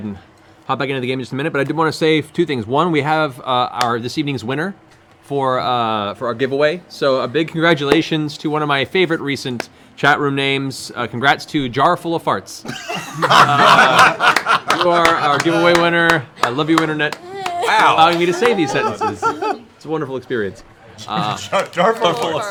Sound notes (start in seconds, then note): 12.6 laughter